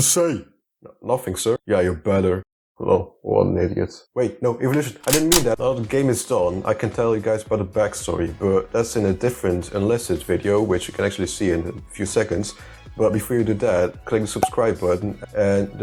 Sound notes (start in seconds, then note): 11.3 gun clicking